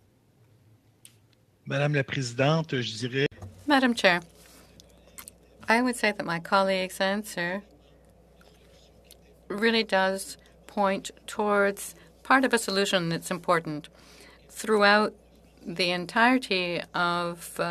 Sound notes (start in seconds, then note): 7.8 speaking French